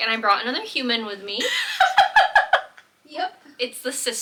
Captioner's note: laughs